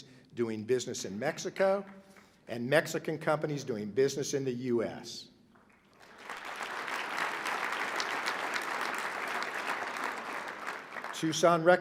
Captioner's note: applause